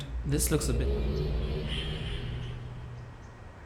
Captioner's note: linking sound